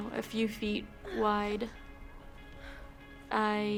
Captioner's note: breathes deeply